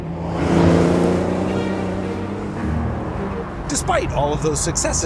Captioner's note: engine revs